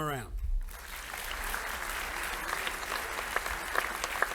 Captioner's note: audience applauding